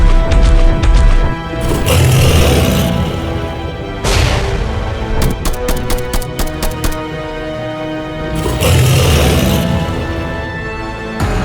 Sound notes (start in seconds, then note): 1.6 beast grunts; 5.2 gun blasting; 5.2 claw thuds; 8.2 beast growls; 11.2 intense music